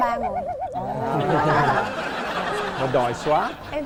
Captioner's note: laughing